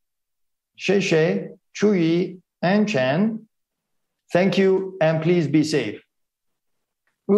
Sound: non-english speech

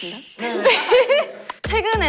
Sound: laughing

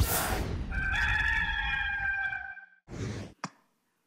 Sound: rooster crowing

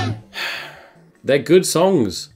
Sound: sighing

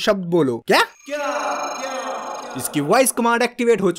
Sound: echoes

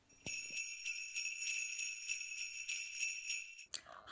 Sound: sleigh bells

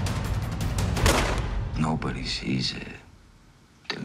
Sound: gunshot fires

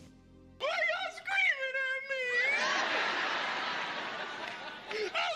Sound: canned laughter

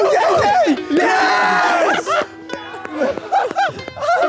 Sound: players clamouring; group In Unison; laughs

